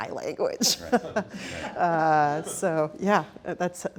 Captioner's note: laughs